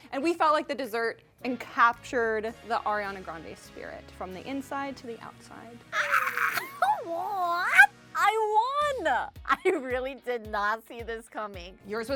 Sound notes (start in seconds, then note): 5.9 screams